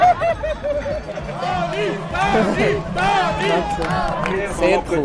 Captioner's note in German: im Chor